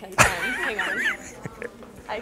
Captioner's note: laughter